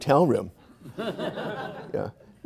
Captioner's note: audience laughing